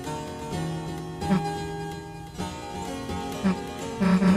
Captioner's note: cough